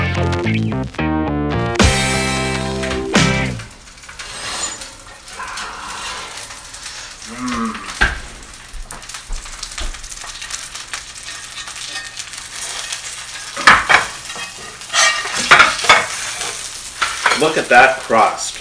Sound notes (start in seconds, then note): 1.9 oven opening and closing sound